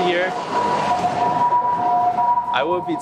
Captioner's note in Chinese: 嘟堵嘟堵